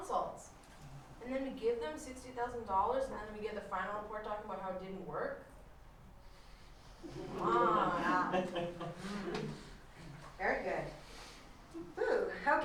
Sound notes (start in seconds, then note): 7.0 laughter